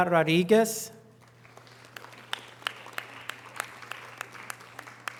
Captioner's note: audience applause